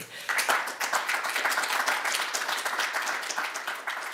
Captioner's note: audience clapping